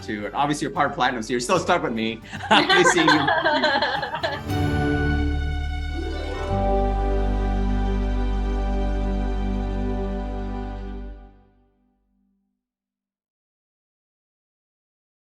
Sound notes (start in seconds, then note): 2.3 laughs; 4.7 cheerful bright music